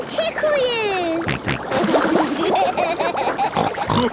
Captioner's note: snorting, giggling